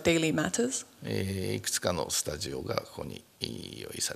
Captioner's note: speaking japanese